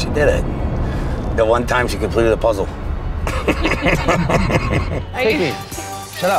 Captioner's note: laughs